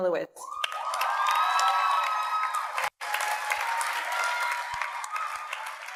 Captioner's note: audience cheers and applauds